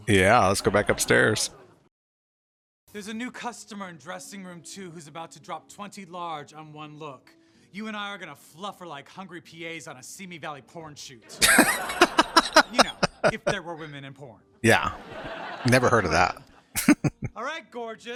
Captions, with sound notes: Yeah, let's go back upstairs. [Laughing] Yeah. Never heard of that. [Chuckling]